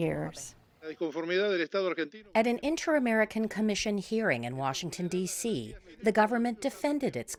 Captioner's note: voice-over